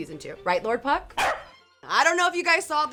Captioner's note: corgi barking